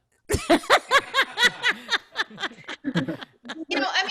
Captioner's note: laughter